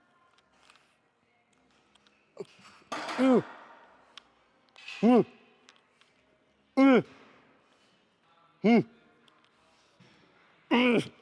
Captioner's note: grunting